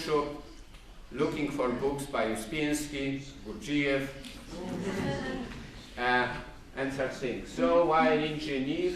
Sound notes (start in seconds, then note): 4.6 laughter